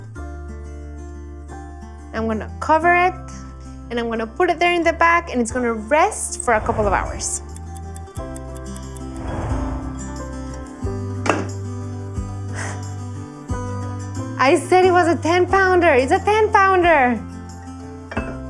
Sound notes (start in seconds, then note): 6.4 ticking